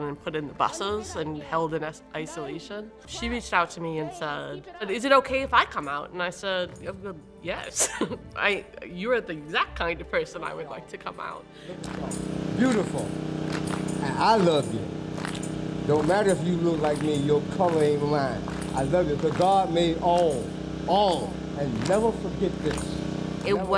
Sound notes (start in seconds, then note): 11.5 motor noise; 15.1 clapping